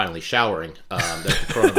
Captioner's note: laughter